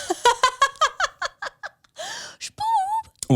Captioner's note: laughs